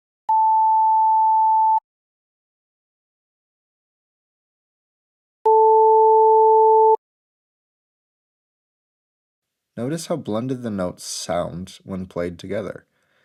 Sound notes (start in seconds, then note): 0.3 880 Hz sine wave plays; 5.5 440 Hz and 880 Hz played together